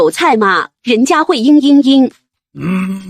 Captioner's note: sobs